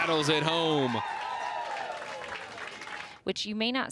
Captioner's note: crowd cheers and applauds